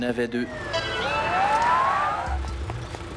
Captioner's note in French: sirènes